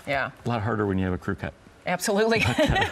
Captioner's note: giggles